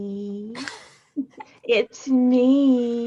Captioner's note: Bobo laughs